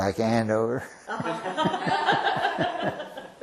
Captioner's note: laughter